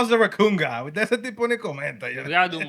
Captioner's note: speaking Spanish